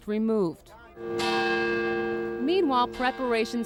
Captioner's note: church bells tolling